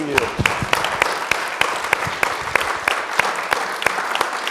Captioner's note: audience applauding